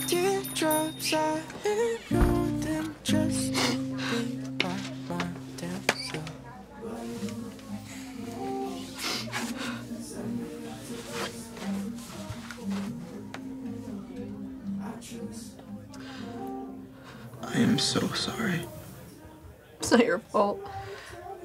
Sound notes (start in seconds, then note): 8.8 Astrid sobs